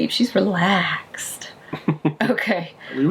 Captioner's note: laughing